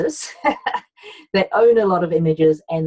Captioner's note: laughs